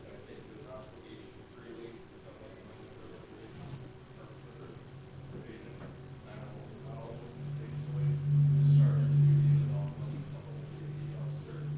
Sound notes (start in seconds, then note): 7.5 mic feedback